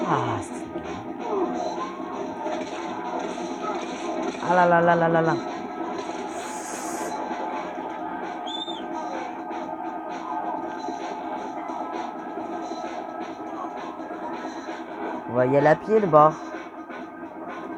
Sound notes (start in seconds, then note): 2.1 music and cries of zombies; 6.1 sigh of stress; 10.1 music and cries of zombies; 17.1 music and cries of zombies